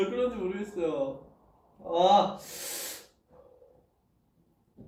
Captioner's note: breathes